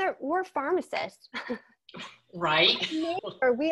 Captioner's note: laughing